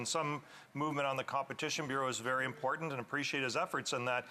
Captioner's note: off mic